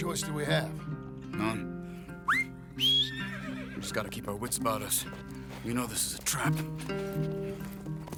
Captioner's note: whistles